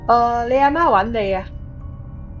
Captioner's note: Cantonese